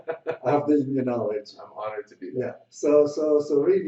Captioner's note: laughs